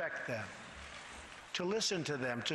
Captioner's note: none